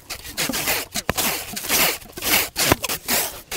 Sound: tape ripping

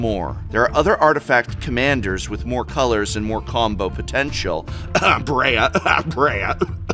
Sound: cough

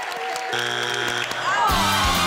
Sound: audience clapping; buzzer sounds; upbeat victorious music

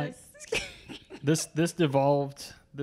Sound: laughs

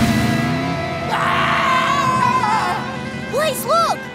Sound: screaming

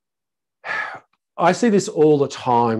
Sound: sighs

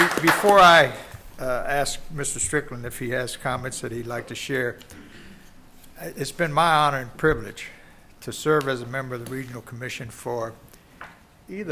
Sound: applause

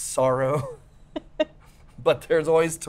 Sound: both laugh

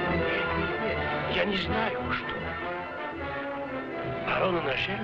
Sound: men speaking foreign language

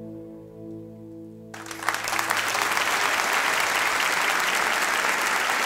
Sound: applause

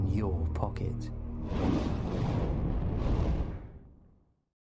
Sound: flames Bursts

